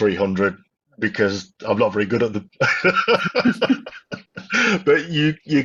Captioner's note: laughs